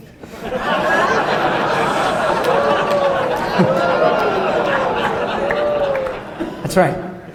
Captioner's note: applause